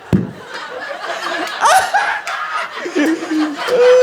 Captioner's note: laughs